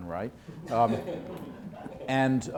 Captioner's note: laughter